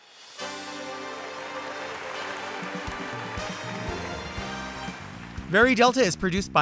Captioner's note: audience applauds; upbeat music